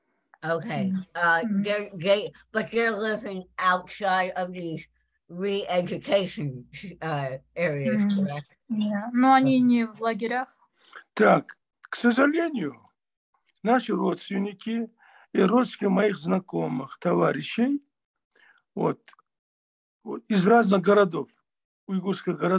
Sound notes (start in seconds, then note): 9.3 asking question in Russian to father; 15.8 in Russian